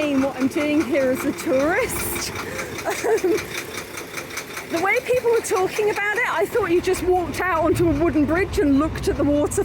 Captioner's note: laughing